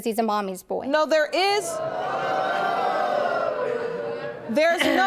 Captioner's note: audience gasp